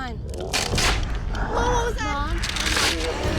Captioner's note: growl